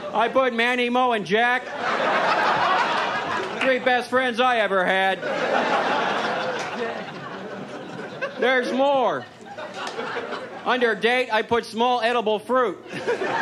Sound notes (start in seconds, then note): 5.0 audience laughs